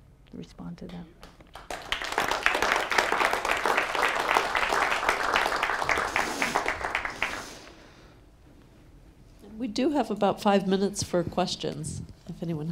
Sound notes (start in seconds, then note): 1.2 clapping